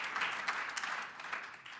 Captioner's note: applause